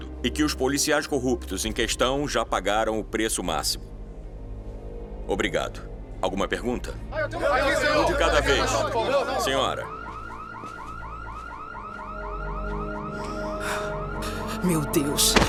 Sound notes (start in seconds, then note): 7.2 journalists chatting; 10.0 alarm blaring